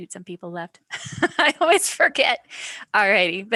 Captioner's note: laughs